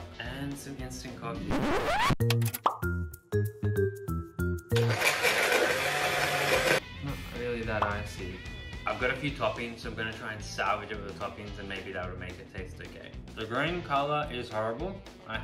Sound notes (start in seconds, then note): 1.4 record scratching; 2.6 playful music; 4.7 blender buzzing